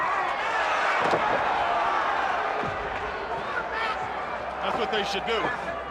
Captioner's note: crowd chatter